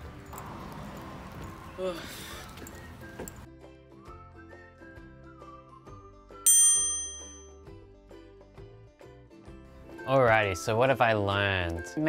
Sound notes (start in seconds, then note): 0.4 sighs; 6.4 bell dings